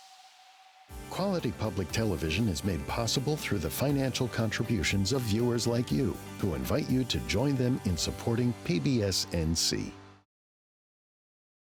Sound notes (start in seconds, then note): 0.1 music fades; 2.8 voiceover